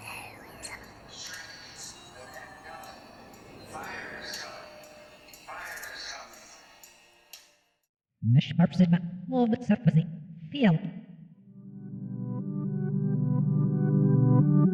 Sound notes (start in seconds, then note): 0.2 ghostly whispering; 0.4 light alternative music; 8.4 speaking foreign language; 11.4 gentle music